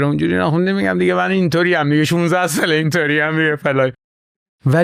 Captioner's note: laughs